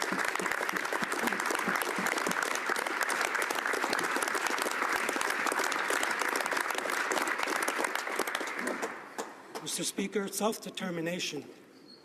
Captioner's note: applause